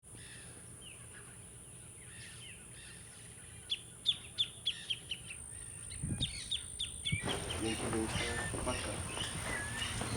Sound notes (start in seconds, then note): 0.0 birds chirping; 7.0 speaking in Spanish